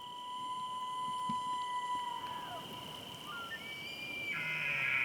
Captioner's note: elk bugles